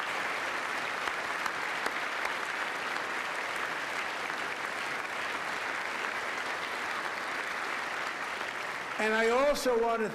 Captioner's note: applause